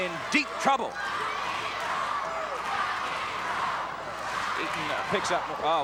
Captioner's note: audience cheering